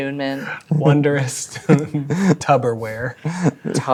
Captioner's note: chuckling